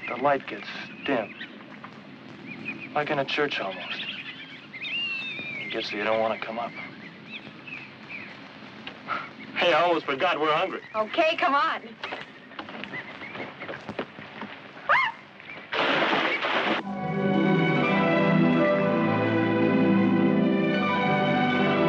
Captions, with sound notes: The lights gets dim, like in a church almost. Gets so you don't wanna come up. Hey, I almost forgot, we're hungry. >> Okay, come on. (Gwyneth squeals) (water splashing) (soft, whimsical orchestral music)